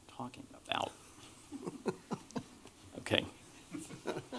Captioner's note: laughter